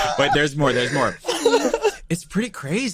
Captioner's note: chuckles